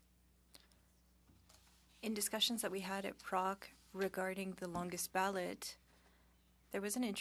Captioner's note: speaking French